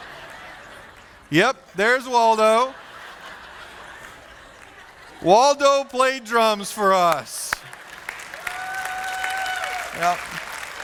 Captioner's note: applause